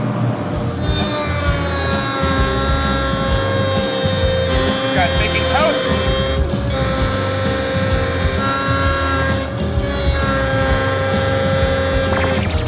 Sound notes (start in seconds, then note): 1.1 beveling machine whirring; 1.1 subtle rock music; 6.8 whirring continues